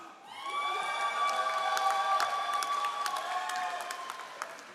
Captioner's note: all applauding